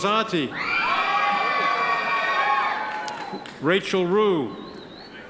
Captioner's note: audience members cheer